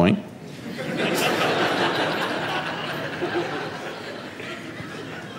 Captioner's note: audience laughs